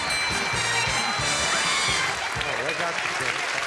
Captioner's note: ding; applause